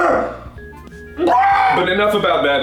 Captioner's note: pterodactyl scream